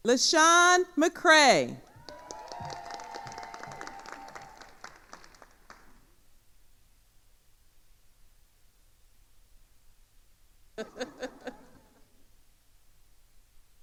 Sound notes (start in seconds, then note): 1.8 attendees cheering and applauding; 10.8 laughs